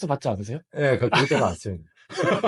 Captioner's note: laughs